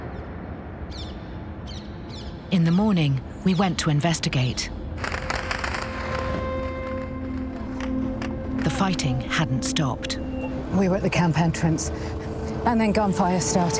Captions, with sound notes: (birds chirping) In the morning, we went to investigate. (gunshots) The fighting hadn't stopped. We were at the camp entrance, and then gun fire started.